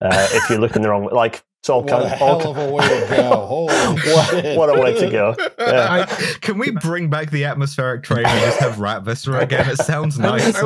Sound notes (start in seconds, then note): 1.8 laughs; 5.7 laughter; 6.7 laughs